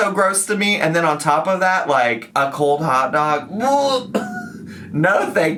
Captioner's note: gags